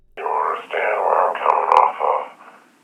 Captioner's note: none